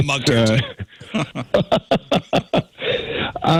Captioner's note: laugh